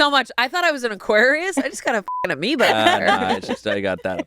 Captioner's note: beep